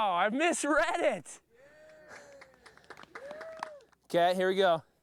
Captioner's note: people cheering